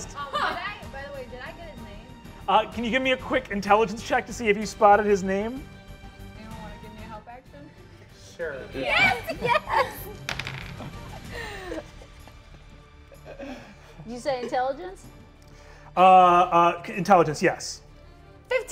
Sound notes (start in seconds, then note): 0.1 laughs; 9.0 players chuckling; 10.2 dice tapping table